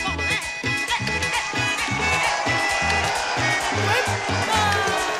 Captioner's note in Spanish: applause and cheering